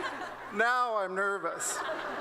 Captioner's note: laughter